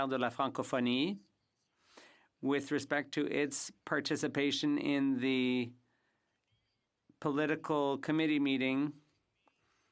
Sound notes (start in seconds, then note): 5.4 speaking French